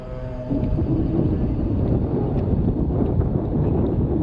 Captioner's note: wind blowing